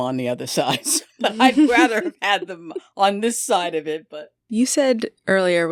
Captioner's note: laughter